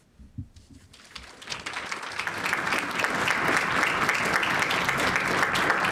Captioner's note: applause